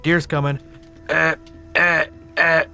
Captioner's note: shitty deer grunts